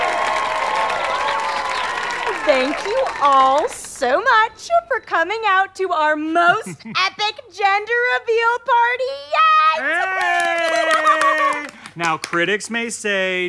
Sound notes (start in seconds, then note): 0.0 audience applause, cheering; 9.8 clapping